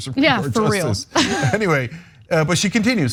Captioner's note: laugh